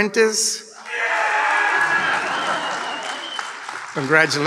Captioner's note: big cheer and applause